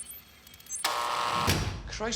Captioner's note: electronic scans; door buzzes